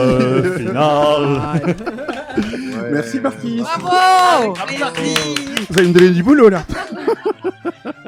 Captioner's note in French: rires